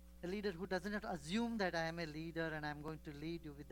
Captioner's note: none